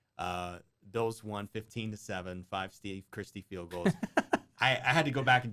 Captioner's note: laughter